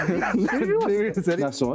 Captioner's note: laughs